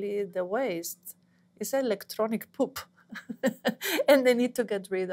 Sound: laughs

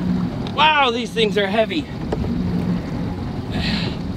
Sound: groaning

